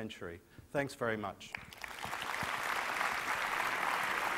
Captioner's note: applause